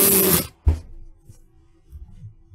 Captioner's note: thud